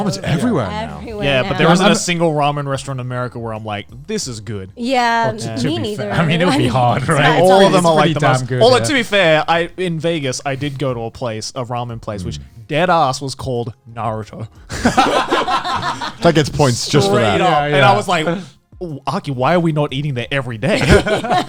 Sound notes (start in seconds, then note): 14.7 all laughing